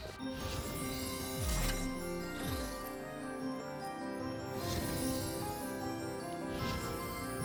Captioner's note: chimes